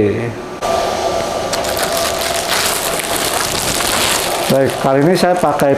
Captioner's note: plastic sound